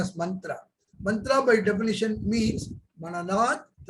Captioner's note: speaks in Hindi